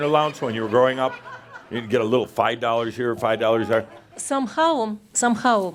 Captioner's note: some chuckles